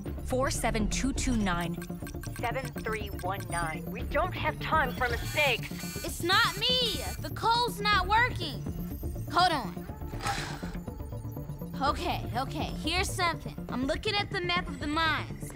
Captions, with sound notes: Four, seven, two, two, nine, seven, three, one, nine. We don't have time for mistakes! It's not me! The code's not working. Hold on. [sighs] Okay. Here's something. I'm looking at the map of the mines.